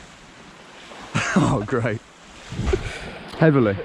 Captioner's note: laughing